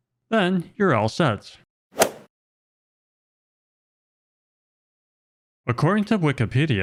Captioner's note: golf swing sound effect